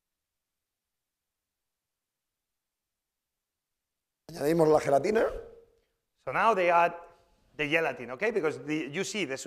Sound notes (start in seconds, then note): 4.8 speaking spanish